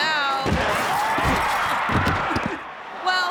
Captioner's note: bodies thudding